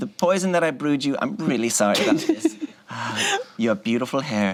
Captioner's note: laughs